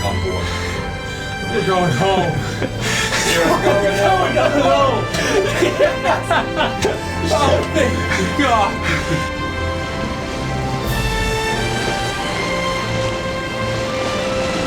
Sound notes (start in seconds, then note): 3.8 laughter; 9.9 rain